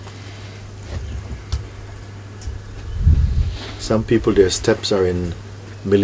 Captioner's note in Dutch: none